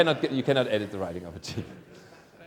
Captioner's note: laughter